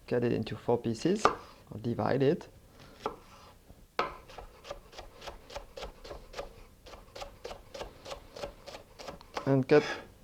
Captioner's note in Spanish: sonido cortando